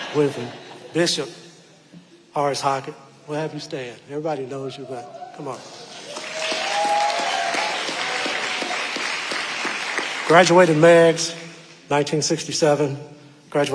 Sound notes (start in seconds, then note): 5.4 audience applauding and cheering